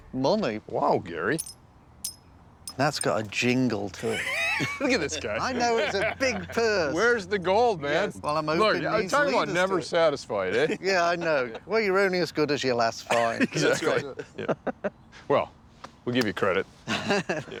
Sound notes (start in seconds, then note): 4.0 laughter